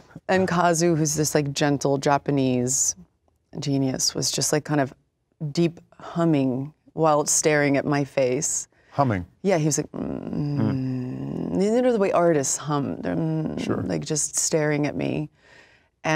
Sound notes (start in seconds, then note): 9.8 thoughtful humming; 13.1 humming